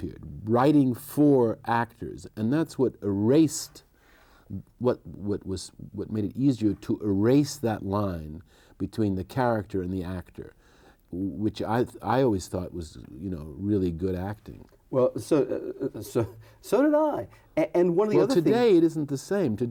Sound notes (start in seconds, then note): 15.0 chuckles